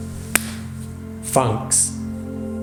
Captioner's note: claps